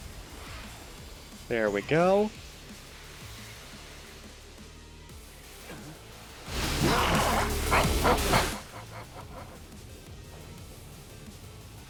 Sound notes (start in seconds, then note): 6.7 doom laughing